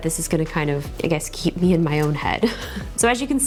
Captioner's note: chuckles